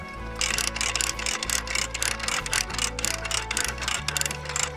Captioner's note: gears clunking